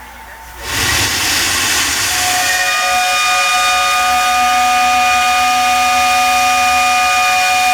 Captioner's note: train whistle blowing